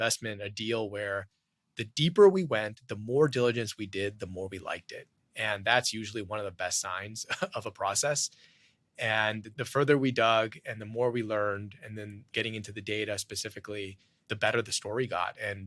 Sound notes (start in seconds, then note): 7.2 laughs